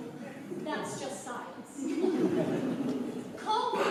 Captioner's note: laughter